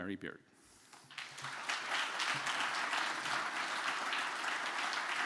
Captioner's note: audience applauding